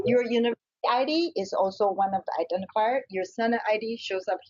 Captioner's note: audio skips